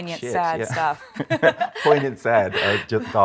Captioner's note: both laugh